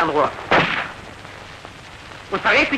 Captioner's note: shot